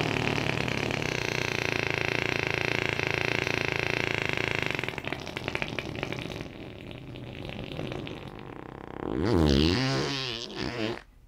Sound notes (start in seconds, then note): 0.3 farting noises continue; 5.4 farting noises get wetter